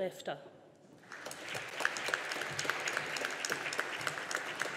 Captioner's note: audience applauding